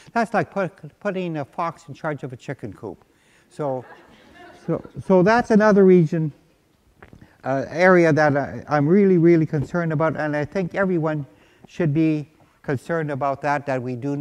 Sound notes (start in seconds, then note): 3.7 laughter